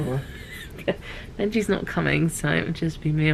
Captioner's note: chuckles